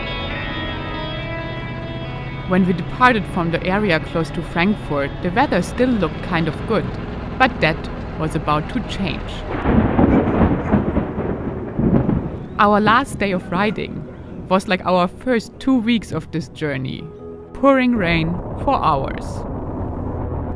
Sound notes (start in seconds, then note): 9.9 thunderstorm roaring